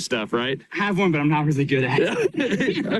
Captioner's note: laughs